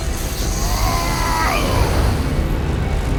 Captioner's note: groans in pain